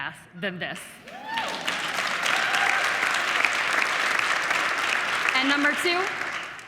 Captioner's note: audience applauding